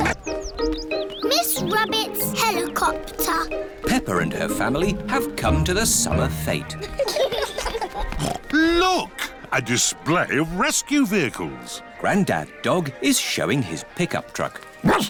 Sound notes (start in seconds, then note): 6.7 laughter; 8.2 snorts; 14.8 barks